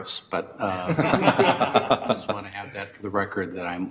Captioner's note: everyone laughs